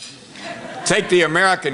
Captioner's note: laughter